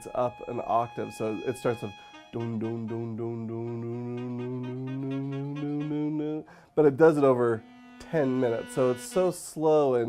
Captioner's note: making sounds with mouth